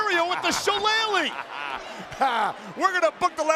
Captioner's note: laughing